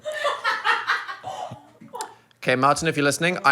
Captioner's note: people laughing